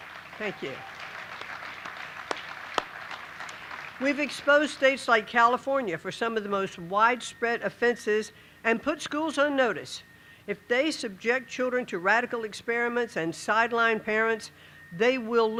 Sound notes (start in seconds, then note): 4.7 applause